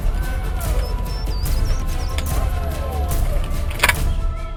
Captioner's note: dramatic music; drivers yelling